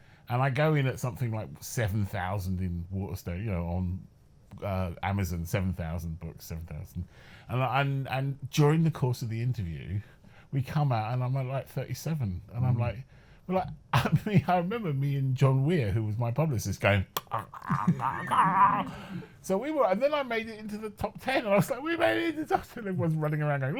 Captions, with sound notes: And I go in at something like 7,000 in Waterstones, you know, on Amazon. 7,000 books. During the course of the interview, we come out and I'm like 37 and I'm like, Well, I mean, I remember me and John Weir, who was my publicist, going, (stunned noises) So we were and then I made it into the top ten like "We're made it into the top ten!" Everyone was running around.